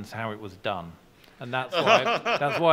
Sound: laughing

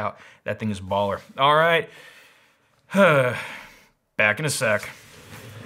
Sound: breathes out

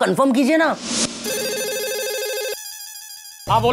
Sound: phone ringing

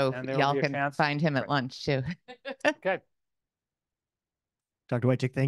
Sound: all laughing

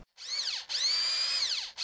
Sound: drilling

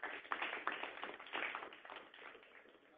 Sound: audience applause

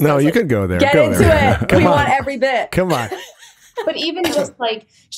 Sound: giggles

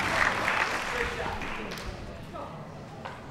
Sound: chattering

